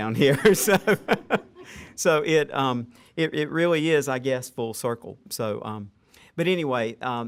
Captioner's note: laughter